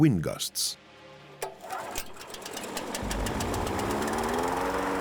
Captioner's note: whirring